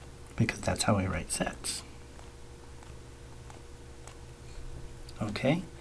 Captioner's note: writing Sounds